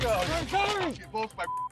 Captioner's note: beep